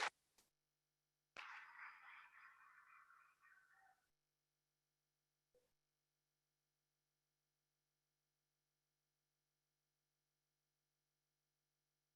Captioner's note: applause